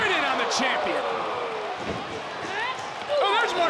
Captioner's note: crowd moans